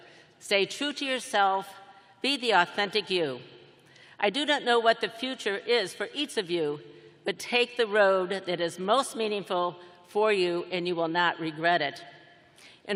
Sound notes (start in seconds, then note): none